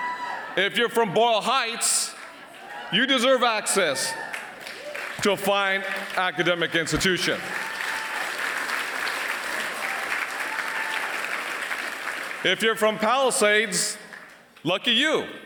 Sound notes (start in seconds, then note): 7.5 applause